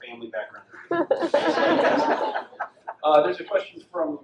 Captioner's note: audience laughs